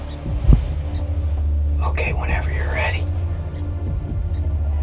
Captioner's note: whispering